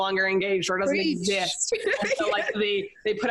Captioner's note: laughs